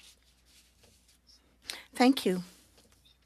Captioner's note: speaking French